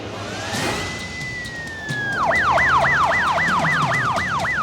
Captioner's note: sirens wailing